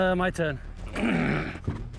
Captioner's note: grunts